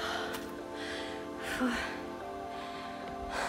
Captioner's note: heavy panting